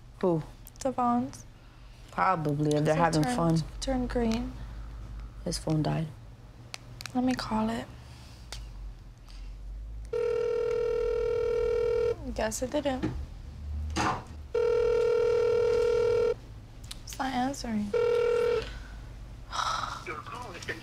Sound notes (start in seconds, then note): 10.1 phone ringing; 14.5 phone ringing; 17.9 phone ringing